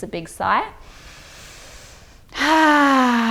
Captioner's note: inhales deeply